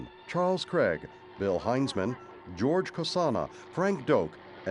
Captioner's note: helicopter passing